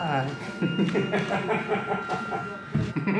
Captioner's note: maniacally laughs